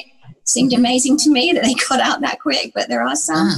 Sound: chuckles

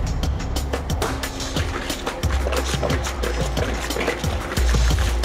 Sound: suspenseful music; chicken sloshing

